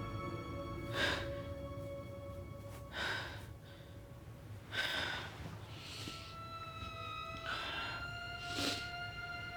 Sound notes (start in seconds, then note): 0.8 Rachel breathes heavy; 6.9 eerie music